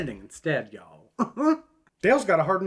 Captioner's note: chuckles